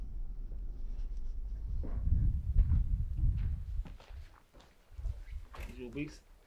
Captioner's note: wind blowing